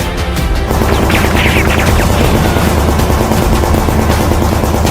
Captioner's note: gunshots banging